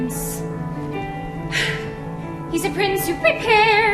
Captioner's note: sighs